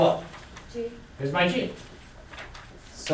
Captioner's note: voiceover